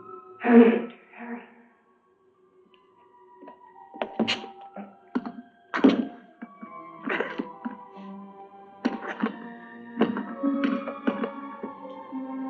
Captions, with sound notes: Hurry, Victor, hurry! [coffin lock rattling]